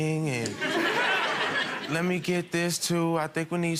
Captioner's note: crowd laughs